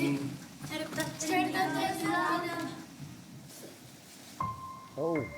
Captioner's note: speaking in foreign language